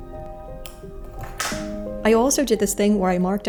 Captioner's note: satisfying snip